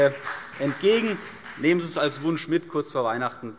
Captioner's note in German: Vereinzelter Beifall